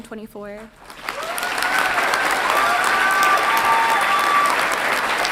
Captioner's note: audience applauds and cheers